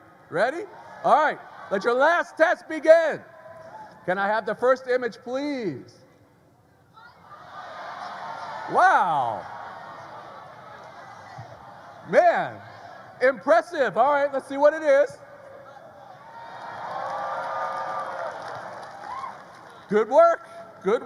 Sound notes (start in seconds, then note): 15.6 graduates cheer; 16.4 graduates applaud